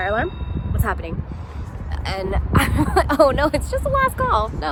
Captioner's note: laughing